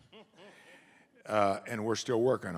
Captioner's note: someone laughs